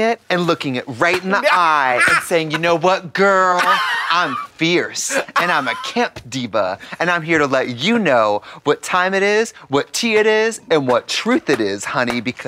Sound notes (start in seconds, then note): 3.6 Katya cackles